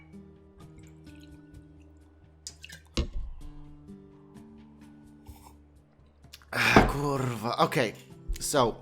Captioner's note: alcohol noises